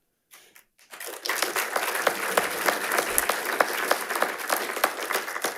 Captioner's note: attendees applauding